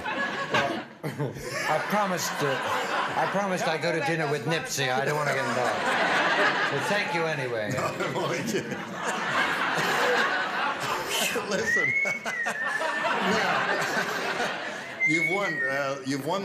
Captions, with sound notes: -I promised-- I promised I'd go to dinner with Nipsey. I don't want to get involved. (laughter) But thank you anyway. -(chuckles) (laughter) -(exhales) (whistles) -Listen... Now... (laughs) You've won the $500.